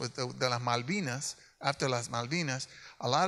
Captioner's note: speaks in Spanish